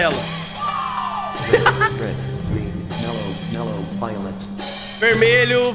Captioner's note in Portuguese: risos